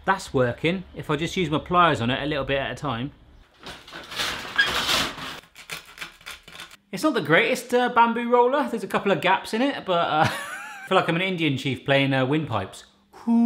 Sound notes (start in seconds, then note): 3.6 metal scraping; 10.6 laughs